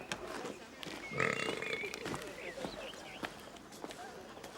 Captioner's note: Shinar belching